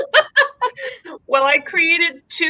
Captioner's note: laughing